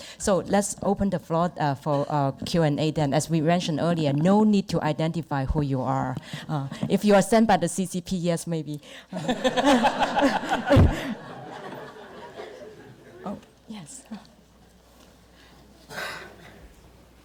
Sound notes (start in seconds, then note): 9.2 audience laughter; 9.2 laughs